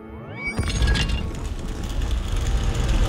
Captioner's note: doors rumbling